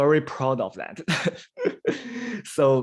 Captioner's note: laughs